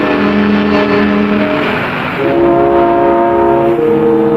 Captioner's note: disquieting chords; car revving